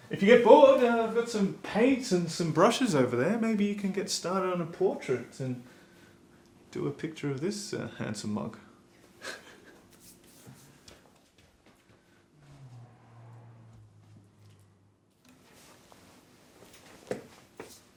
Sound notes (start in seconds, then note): 9.2 laughing